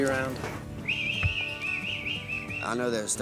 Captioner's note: whistling